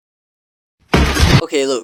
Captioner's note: thud